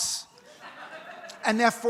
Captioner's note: audience laughs